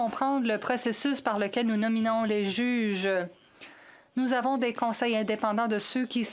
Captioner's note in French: voix de l'interprète